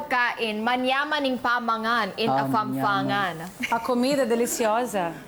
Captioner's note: speaks in kapampangan; speaks in spanish